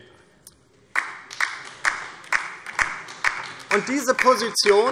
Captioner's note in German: Beifall DIE LINKE